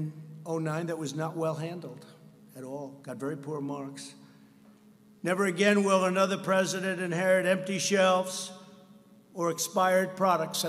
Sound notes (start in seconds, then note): none